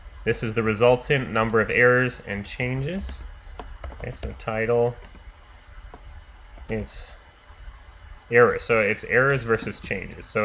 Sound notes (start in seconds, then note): 7.0 keyboard clicking